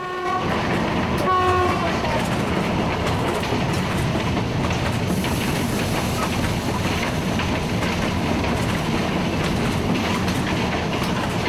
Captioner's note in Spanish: Sonido de tren